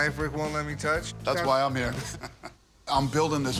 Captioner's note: laughs